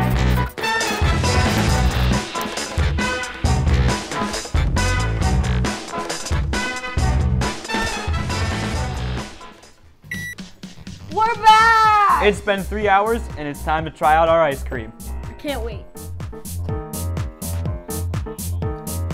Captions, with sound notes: (upbeat music) (beep) - We're back. - It's been three hours and it's time to try out our ice cream. - I can't wait.